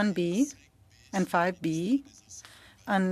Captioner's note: speaking french